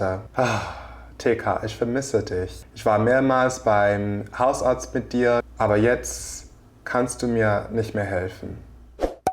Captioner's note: sigh